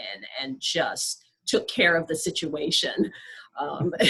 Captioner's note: laughs